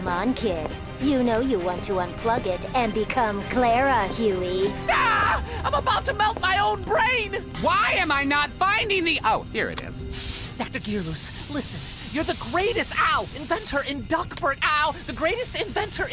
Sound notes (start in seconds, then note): 13.0 flick